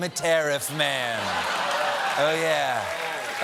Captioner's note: laughter